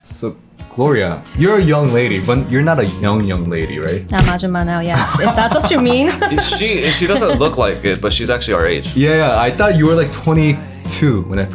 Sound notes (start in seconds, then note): 4.9 laughter